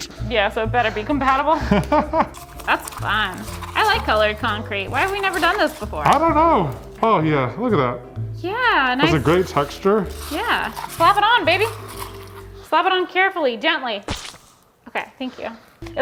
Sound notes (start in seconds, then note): 1.6 laughing